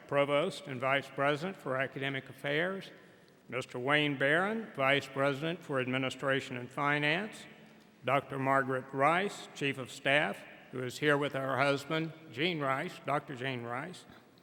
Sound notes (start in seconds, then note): none